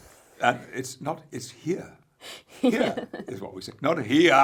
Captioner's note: laughs